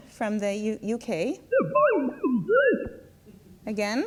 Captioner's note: voice speaks distorted, machine-like speech